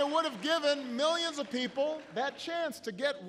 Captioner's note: applause